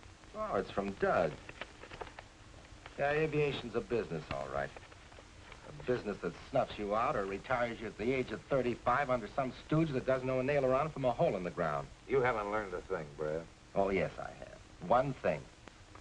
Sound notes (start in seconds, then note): none